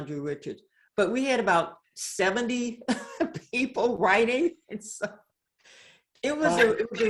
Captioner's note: laughs